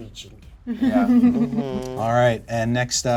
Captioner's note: chuckles